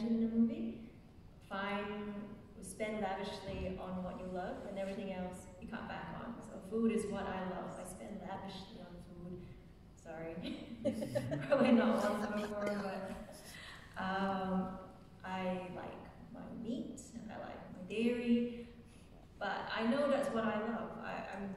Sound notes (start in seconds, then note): 10.8 laughing